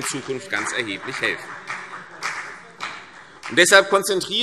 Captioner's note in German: Beifall CDU und BÜNDNIS 90/DIE GRÜNEN